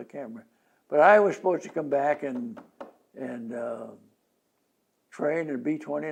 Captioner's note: taps fingers on table